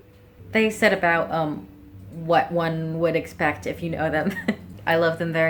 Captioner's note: chuckles